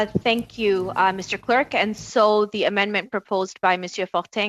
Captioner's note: speaking French